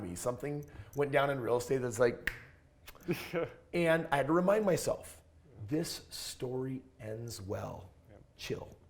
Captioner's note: snap